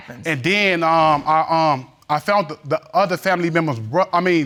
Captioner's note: stammering